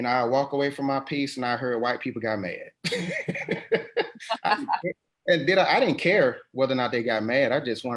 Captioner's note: laughs